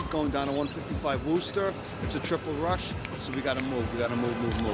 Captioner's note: snaps fingers